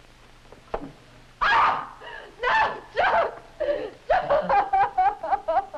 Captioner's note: Terri, screaming; sobbing